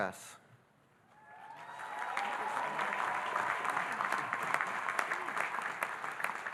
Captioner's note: audience cheering and applauding